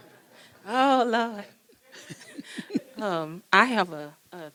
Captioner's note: people laughing